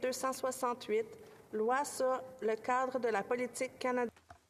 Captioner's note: speaking French